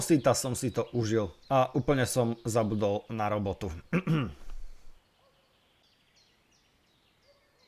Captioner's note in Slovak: odkašľanie